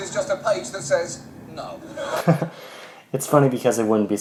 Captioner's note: chuckles